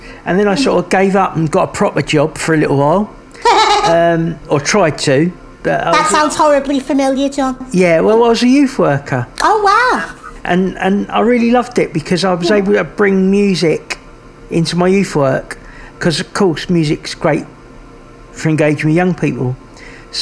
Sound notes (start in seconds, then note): 3.4 laughing